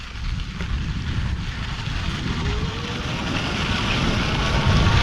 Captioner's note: eBike motor revving